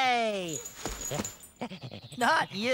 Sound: panting

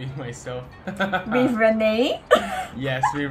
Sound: laughs

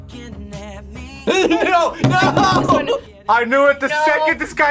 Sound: laughs

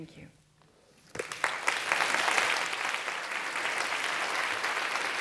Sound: applause

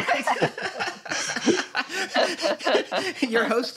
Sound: laughter

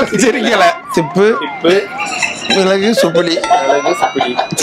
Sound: laughs

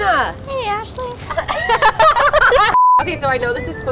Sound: laughing; beeping

